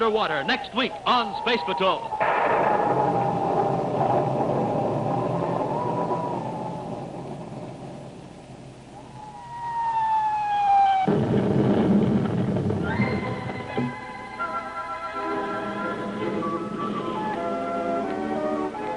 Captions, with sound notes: Treachery Underwater, next week on Space Patrol. (incoming bomb) (upbeat music)